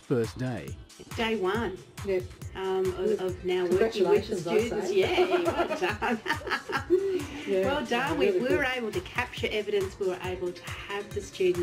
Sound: both laugh

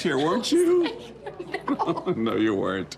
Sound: laughing

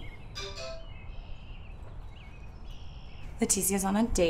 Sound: cell rings

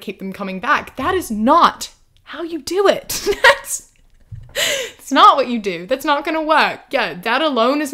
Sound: laughs

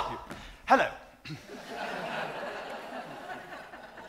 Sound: audience laughs

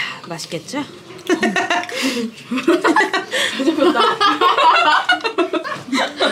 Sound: laughing

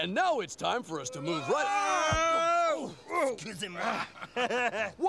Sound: Stinky & Yves yelling; Stinky laughing

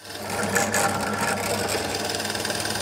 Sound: loud rattling

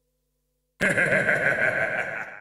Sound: sinister laughing

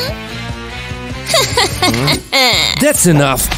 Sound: laughs unpleasantly; sobs

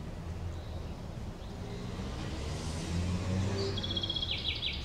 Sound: birds chirping

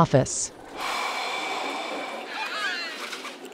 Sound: sigh of relief

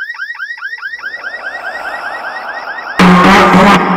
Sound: ghostly voice

